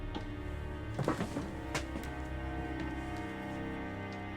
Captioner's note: shoes tapping